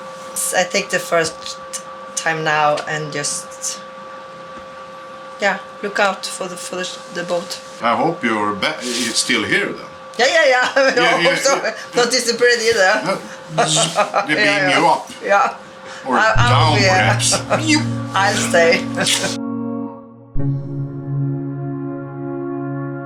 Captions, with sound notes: - I think the first time now, and yeah, look out the boat. - I hope you're still here thoug - Yeah, yeah, yeah, I hope so, don't disappear either. (jokingly laughing) (buzzing) - They beam you up. Or down perhaps. - I'll stay. (mysterious music)